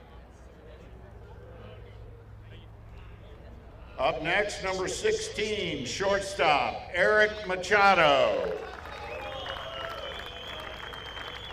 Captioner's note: applause